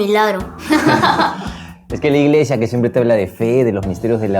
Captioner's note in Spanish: risas